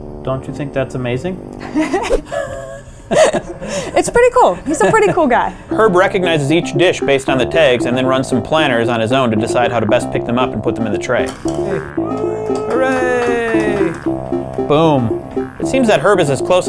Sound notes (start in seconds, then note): 12.0 cheering